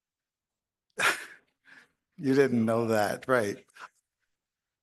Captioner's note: chuckles